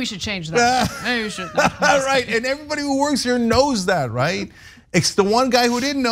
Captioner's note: laugh